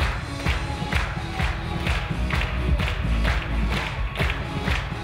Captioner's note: clapping in unison